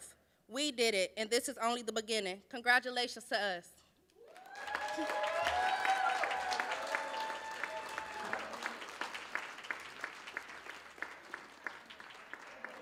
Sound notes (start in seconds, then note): 4.2 cheers, applause